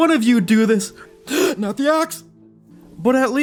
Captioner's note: gasps